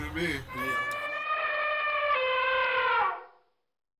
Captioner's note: elephant trumpeting